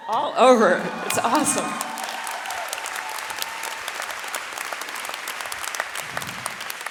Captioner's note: audience cheering and clapping